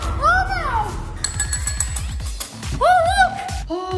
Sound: bell ringing

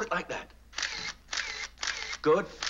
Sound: camera shutter whirring

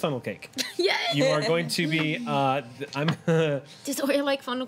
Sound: laughs

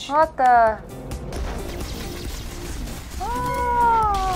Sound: lasers firing; yelling

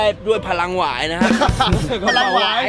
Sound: laughs

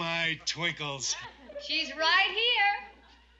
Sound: chuckling

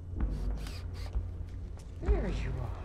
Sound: drill whirs

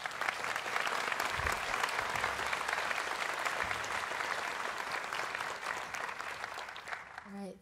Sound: applause

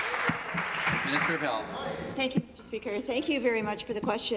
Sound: applause

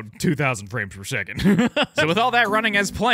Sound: laughs

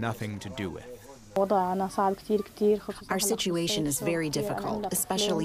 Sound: through translator

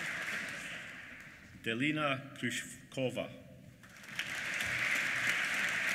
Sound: applause

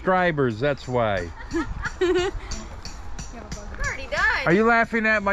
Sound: girls laugh

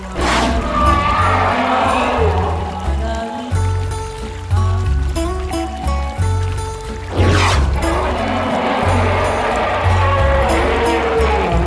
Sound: shark Sound

